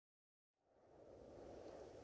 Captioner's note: wind holwing